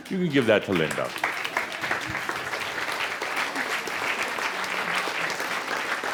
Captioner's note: more applause